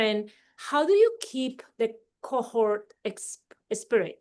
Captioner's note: none